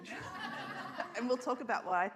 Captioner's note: audience laughs